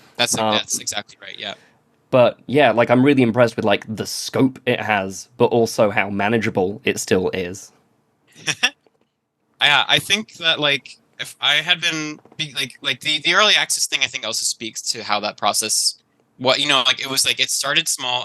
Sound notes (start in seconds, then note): 8.4 laughs